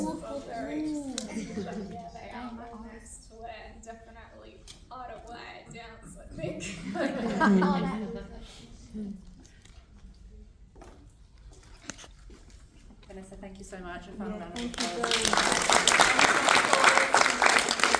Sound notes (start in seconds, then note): 0.0 gasps and Laughter; 9.8 laughter; 17.2 applause